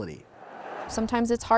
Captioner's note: truck whooshing